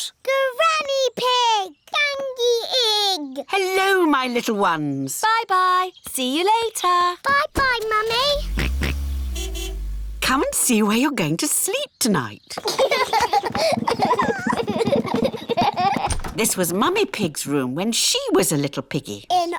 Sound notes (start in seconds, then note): 8.0 george oinks; 8.1 car horn honks; 12.5 children laugh